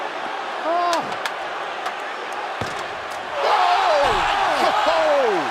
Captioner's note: crowd chatter